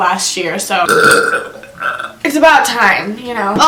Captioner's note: burps